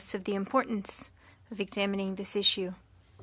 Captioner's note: speaking French